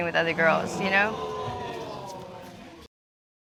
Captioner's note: audience exclaims